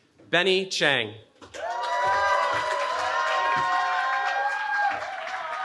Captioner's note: cheering